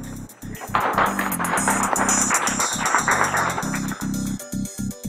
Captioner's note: audience claps; upbeat funky music